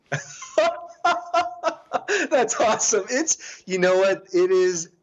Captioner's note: laughs